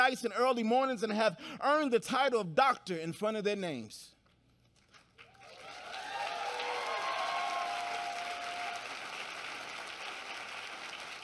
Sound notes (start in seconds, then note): 5.0 applause